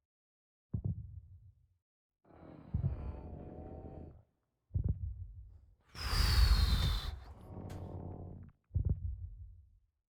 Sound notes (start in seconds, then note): 6.0 exhales